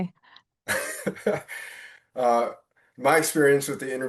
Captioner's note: chuckling